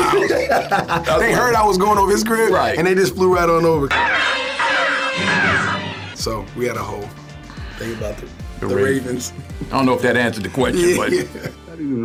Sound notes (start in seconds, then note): 0.0 laughs; 4.0 cawing; 10.8 laughing